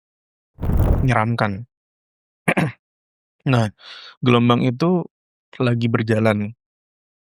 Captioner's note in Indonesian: berdehem